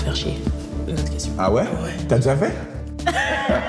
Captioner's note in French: rires